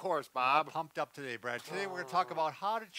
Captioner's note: grunts